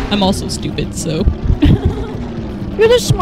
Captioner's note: laughter